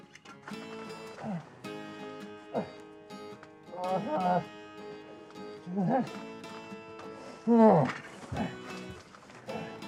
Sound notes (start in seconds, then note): 3.7 Isaac groaning and exclaiming